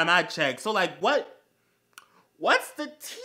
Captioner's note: smacc